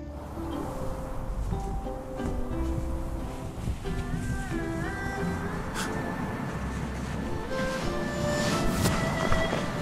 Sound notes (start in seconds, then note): 0.3 wind whistling; 5.7 Harris gasps